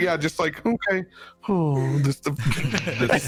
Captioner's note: laughs